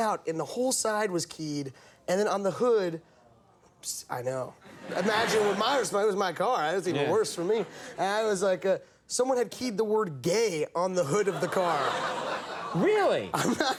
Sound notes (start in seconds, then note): 11.2 audience laughing